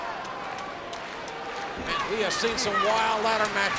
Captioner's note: hands clapping